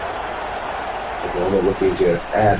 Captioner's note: crowd Noises